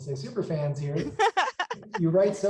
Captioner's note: laughing